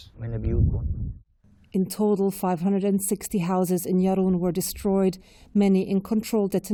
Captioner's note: voice-over